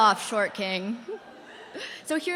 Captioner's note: laughter